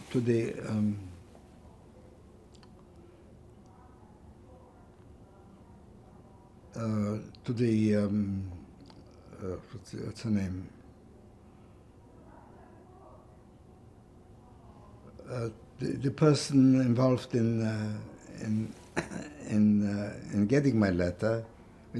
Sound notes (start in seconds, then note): 0.9 pauses 6 seconds